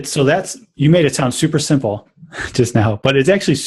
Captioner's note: laughs